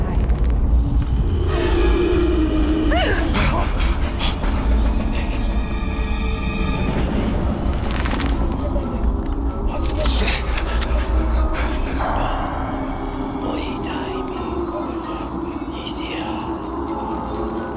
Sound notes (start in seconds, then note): 0.1 growling; 1.9 dramatic music; 2.8 gasping; 12.3 speaking foreign language